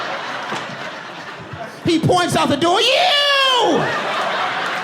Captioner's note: audience laughing